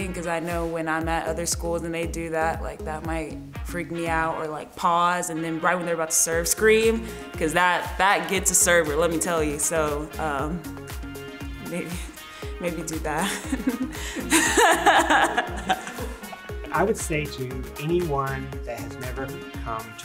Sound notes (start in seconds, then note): 13.2 laughs